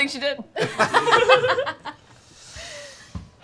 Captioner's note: laughter